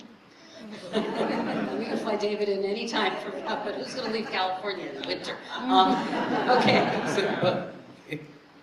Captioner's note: laughter